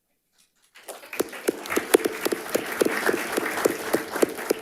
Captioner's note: audience applauding